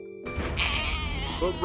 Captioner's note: baby crying